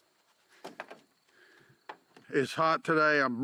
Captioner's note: paws pattering